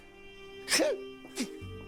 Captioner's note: yelps